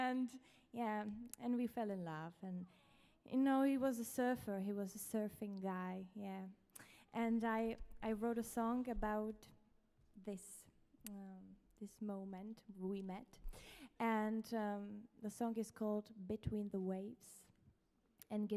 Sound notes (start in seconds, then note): none